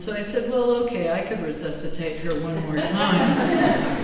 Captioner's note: laughter